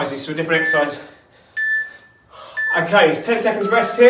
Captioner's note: beeping